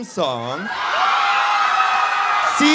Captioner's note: cheering